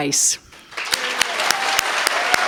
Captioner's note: applause